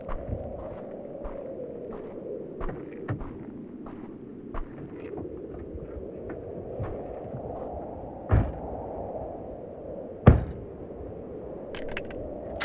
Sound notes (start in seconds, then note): 0.2 footsteps crunch; 2.8 doors swing open; 8.3 doors slam; 11.8 gun clicks